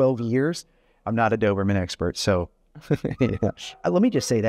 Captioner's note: chuckling